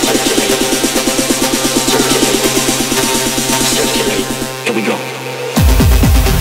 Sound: techno beeping gradually slowing down; techno music

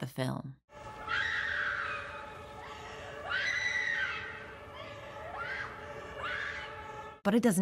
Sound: distant female screaming and sirens

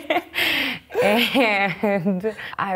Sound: laughs

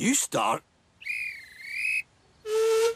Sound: guard's whistle blows; duncan whistles

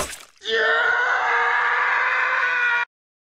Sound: howie scream

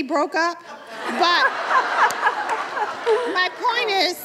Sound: laughter

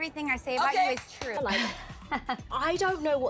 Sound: Chrishell laughs

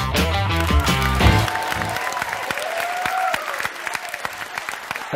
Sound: upbeat music; applause

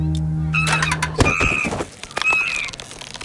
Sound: chimp screeches

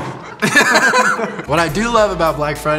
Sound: laugh

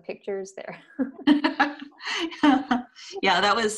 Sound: laughs

